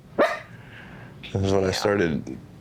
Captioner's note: dog barks